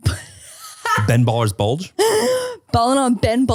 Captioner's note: laughing